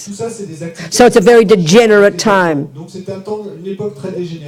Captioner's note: speaking in French